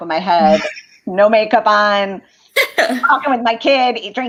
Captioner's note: laughter